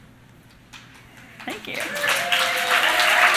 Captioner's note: applause